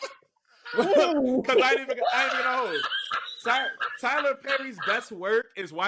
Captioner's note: laughing